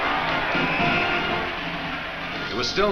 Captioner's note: whistle blows